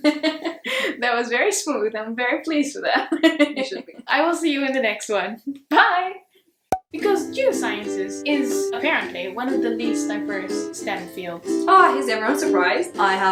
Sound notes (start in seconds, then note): 3.0 chuckles